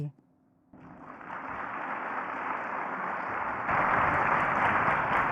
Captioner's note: crowd applauding